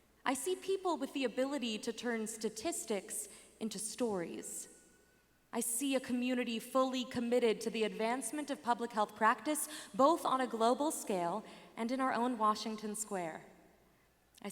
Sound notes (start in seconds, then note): none